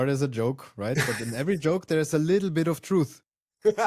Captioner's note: laughs; laughs